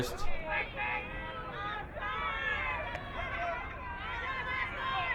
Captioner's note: crowd yelling